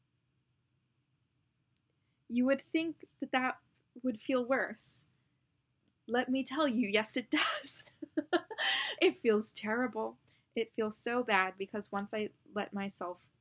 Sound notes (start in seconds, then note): 7.9 laughs; 7.9 still laughing